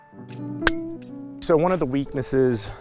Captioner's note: club striking golf ball